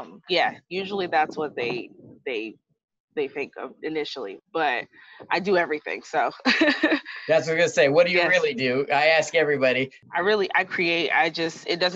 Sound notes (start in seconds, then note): 6.4 laughs